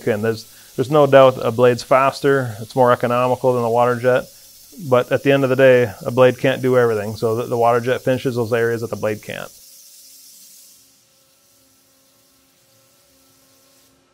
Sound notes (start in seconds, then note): 9.9 machine whirring sound